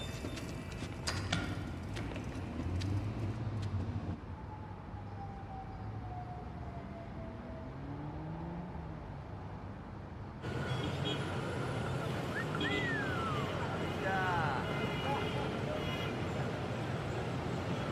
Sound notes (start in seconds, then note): 12.5 car honking at distance